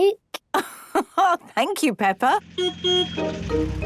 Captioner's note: laugh; honking